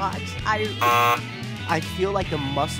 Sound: buzzer

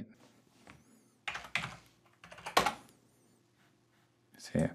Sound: keyboard chattering

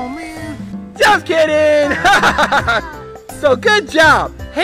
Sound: laughs

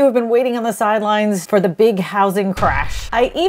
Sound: bomb explosion

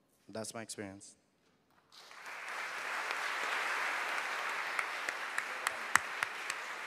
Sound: applause

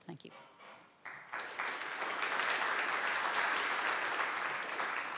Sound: applause

